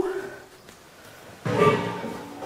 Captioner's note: clattering